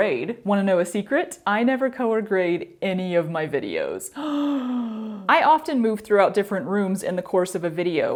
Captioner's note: fake gasp